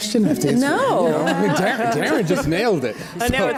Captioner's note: audience laughs